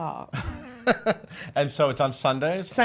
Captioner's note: laughs